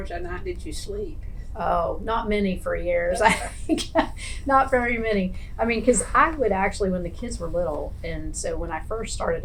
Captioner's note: laughs